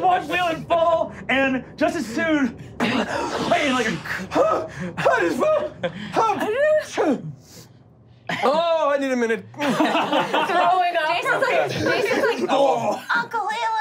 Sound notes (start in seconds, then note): 2.6 gasping; 4.8 stammering; 9.5 laughing